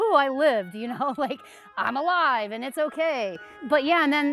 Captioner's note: laughs